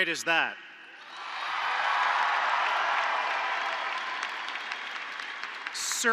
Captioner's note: applause